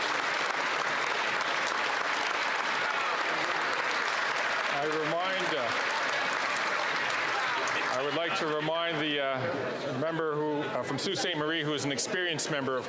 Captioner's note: some Applause